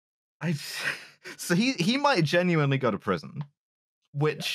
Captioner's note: laughs breathily